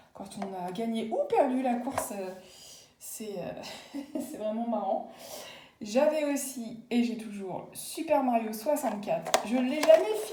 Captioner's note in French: rires